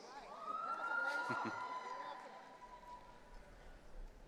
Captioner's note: audience cheering